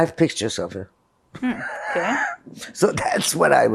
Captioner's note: laughing